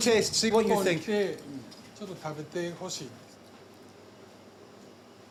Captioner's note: speaks Japanese